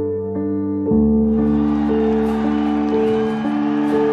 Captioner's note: crowd cheering